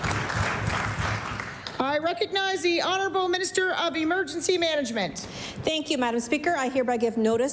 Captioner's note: applause